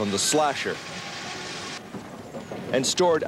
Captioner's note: machinery squealing